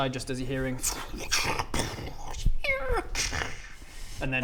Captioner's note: tschuuun...bsssch...eeeeee...cxsskhshhh